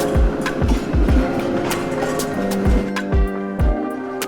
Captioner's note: sound of trams and traffic